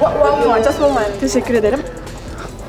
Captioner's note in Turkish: gülme